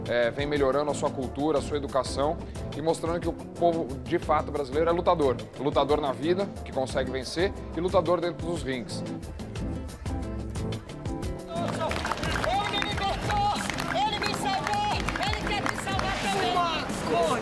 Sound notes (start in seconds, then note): 11.1 woman shouting; 11.5 applause